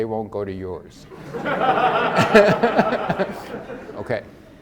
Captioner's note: all laugh